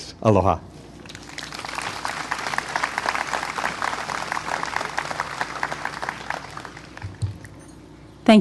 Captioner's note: clapping